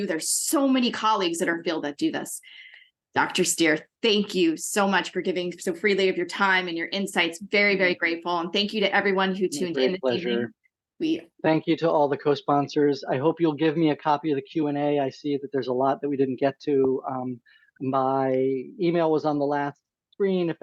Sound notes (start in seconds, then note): 10.7 speaking faintly